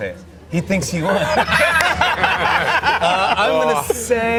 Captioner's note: laughter